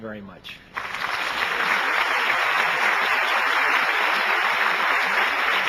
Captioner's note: audience applauding